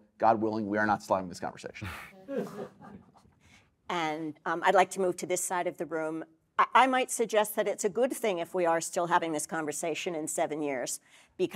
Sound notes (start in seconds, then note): 2.2 audience laughing